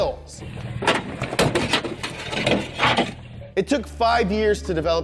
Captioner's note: metal crunching